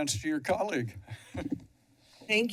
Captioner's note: chuckles